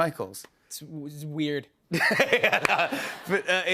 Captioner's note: laughter